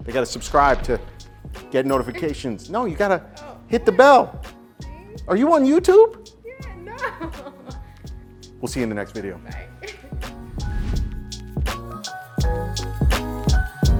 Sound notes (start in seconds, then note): 6.8 laughing; 10.5 upbeat music